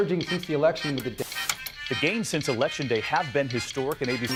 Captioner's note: static buzzes